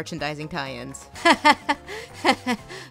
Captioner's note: nervous laughter